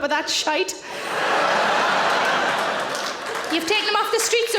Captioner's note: audience laughing